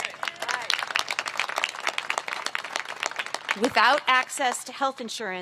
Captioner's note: applause